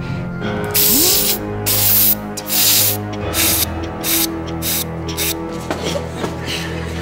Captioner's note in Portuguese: ruído de corte